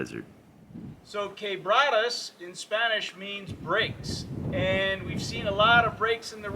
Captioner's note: wind noise